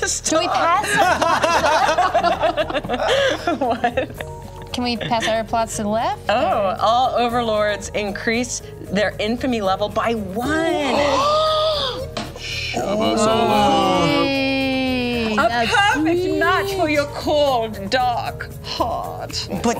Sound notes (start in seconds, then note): 0.8 laughter; 11.0 gasps; 15.6 imitates German accent